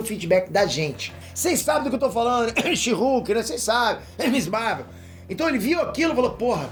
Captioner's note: cough cough